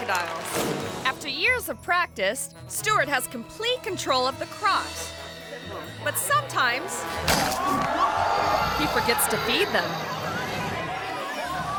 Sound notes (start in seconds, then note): 7.1 crocodile snaps; 7.2 onlookers gasp